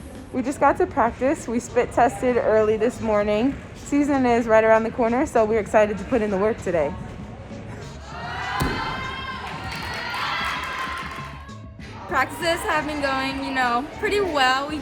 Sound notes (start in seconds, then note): 8.2 team shouting; 9.3 team applauding